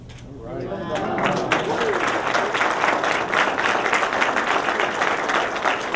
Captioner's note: applause